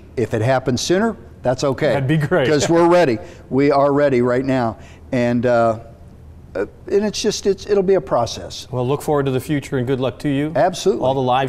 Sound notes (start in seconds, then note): 2.0 chuckles